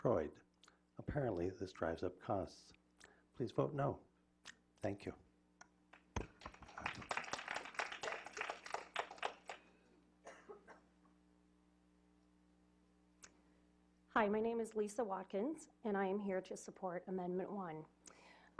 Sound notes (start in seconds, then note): 9.5 clapping